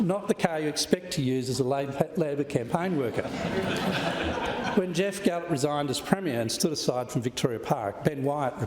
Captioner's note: laughter